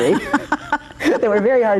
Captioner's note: both laugh